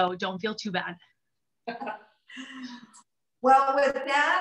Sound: laughter

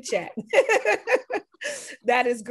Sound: laughs

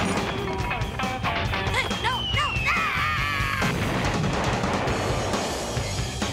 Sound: explosion

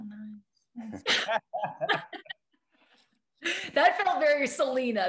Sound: group laughing

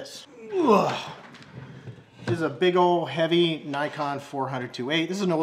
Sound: grunts loudly

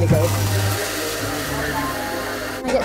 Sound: coffee grinding

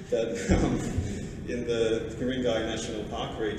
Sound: laughter

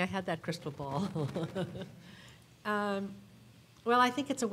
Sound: everyone laughing

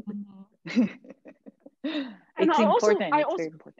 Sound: laughing

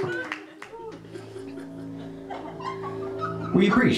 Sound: eerie hum

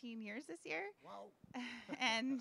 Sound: laughing

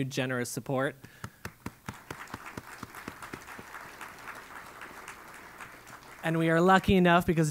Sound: applause

